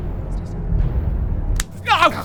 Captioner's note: smack!